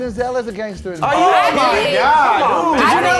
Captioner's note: all exclaim